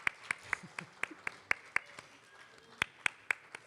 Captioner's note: applause; cheering and applause